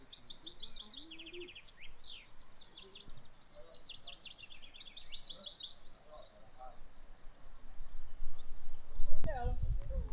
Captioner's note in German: Vogelgezwitscher; Menschengeplapper